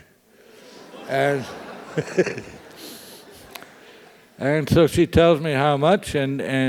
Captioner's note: laugh